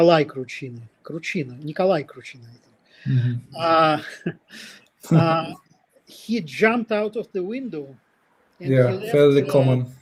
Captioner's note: смях